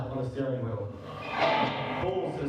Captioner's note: tires squeak